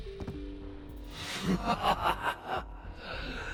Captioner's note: evil laugh